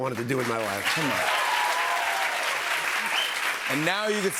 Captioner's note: cheers and applause